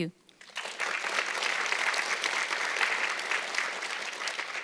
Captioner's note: audience clapping